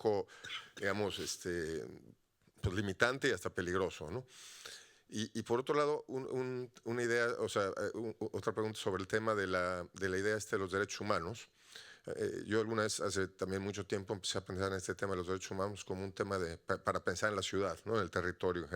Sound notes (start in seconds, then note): 0.6 audience member speaking Spanish continues